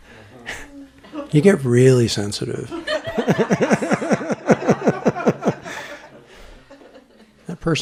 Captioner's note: laughter